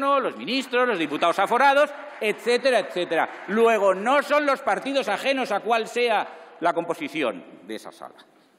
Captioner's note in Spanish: Aplausos